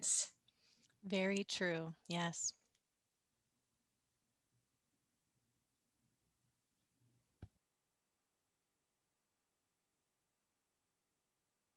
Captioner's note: no audio